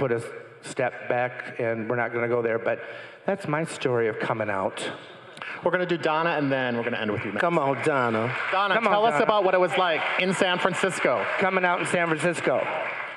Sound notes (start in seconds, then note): 6.0 crowd applauding